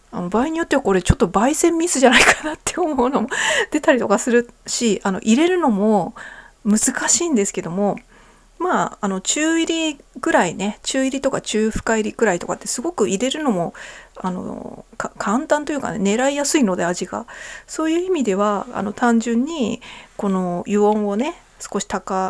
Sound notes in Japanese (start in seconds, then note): 2.1 笑い; 3.3 息をのむ音